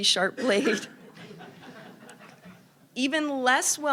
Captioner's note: audience laughing